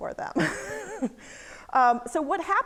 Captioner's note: laughing